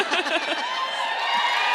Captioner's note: audience cheering and applauding; audience laughs